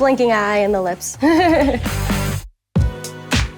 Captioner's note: chuckles; upbeat music